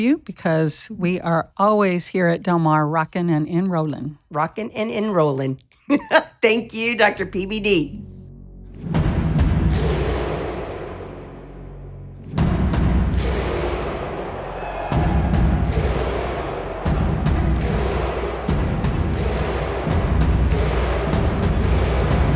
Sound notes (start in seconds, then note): 9.1 compelling rhythmic music; 14.8 crowd cheering